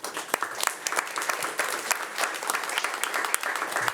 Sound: audience applauding

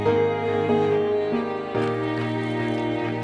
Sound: paddling sounds

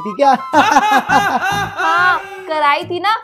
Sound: laughing

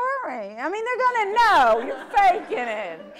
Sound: audience laughter

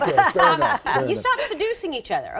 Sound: laughter

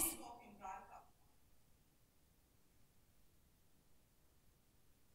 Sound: woman speaking off microphone

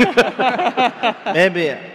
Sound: laughing

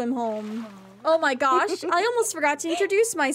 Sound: Ariel Giggles

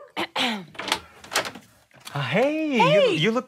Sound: clears throat

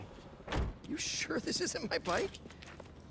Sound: laughing

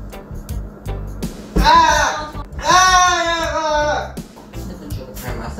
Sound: screaming

